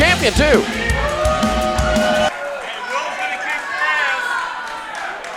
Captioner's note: crowd cheering